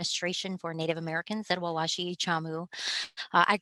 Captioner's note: speaking native language